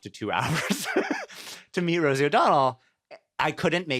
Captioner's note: laughs